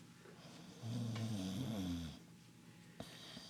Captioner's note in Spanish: Ronquidos